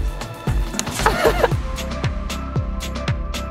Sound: hands slapping; laughs; upbeat music

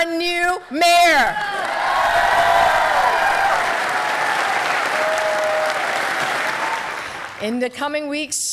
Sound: cheering

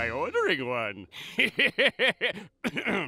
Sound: laughing

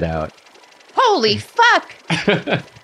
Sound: high pitched voice

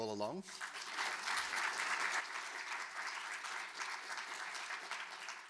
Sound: audience applauding

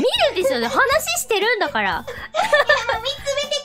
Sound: laughing; laughs

